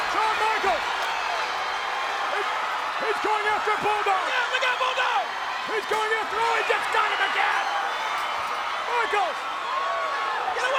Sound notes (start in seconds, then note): 0.0 audience continues cheering; 7.6 audience cheers